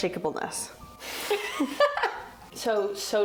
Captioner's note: both laugh